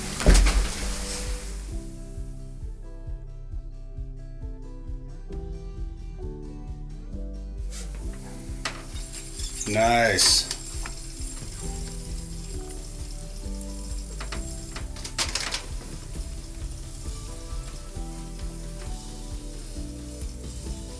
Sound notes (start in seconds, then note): 0.2 upbeat music; 3.8 rod whirring